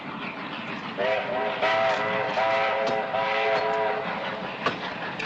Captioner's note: train whistling